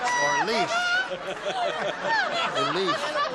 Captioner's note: laughter